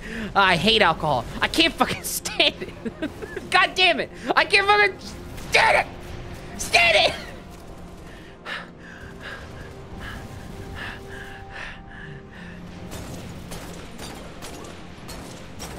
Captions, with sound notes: Ah, I hate alcohol. I can’t fucking stand it. [laughing] God dammit! I can’t fuggin standit! Stand it! [heavy breathing]